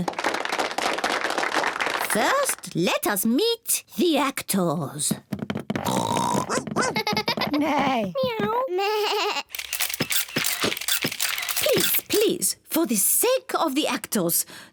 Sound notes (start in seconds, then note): 0.0 applause; 5.8 all make animal noises; 9.5 camera shutters clicking